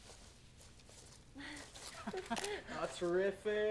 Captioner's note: chuckling